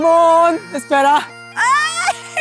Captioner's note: screams